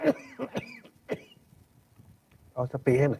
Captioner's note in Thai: เสียงหัวเราะ